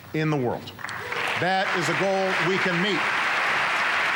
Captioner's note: applause